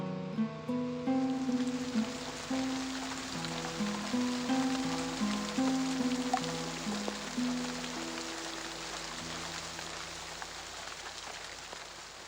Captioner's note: rain